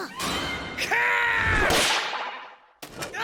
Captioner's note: shouts